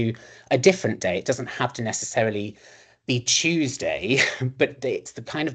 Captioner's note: chuckles